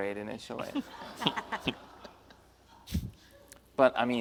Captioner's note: panel and audience laughs